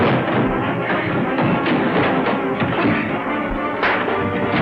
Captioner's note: punch lands